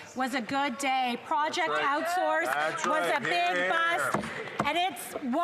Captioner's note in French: voix de l'interprète